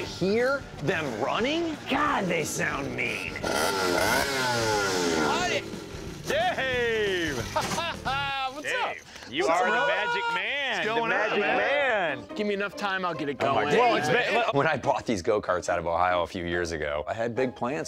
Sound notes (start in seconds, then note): 2.8 engine revving; 7.1 laughs